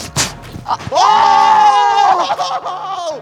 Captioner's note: yelling